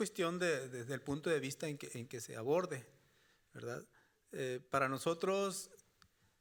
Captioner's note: speaking Spanish continues